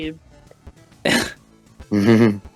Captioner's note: laughf